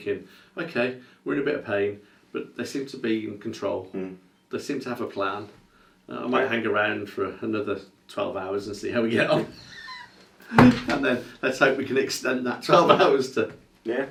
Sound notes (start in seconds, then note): 9.1 laughing